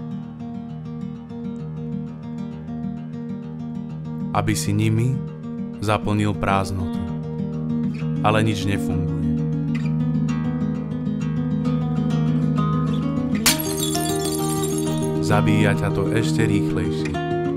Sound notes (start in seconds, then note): 13.4 falling Plates crashing